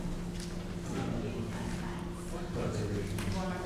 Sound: group talking

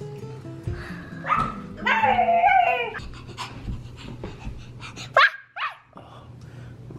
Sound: imitating dog

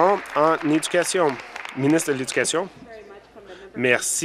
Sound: applause

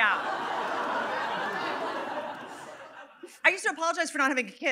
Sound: audience laughing

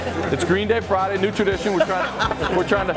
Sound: laughter

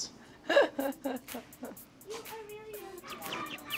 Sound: laughs

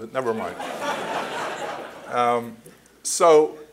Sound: laughter

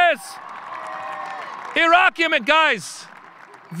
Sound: audience cheering

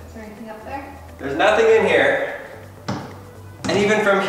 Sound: doors thudding

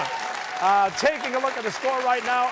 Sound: cheers and applause

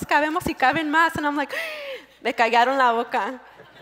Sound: gasp

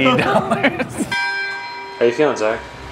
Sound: bell ringing

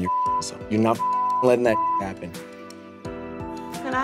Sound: beep

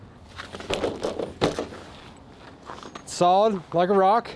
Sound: fence rattling

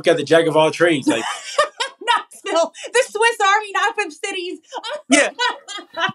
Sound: laugh

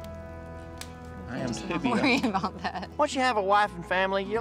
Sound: laughs

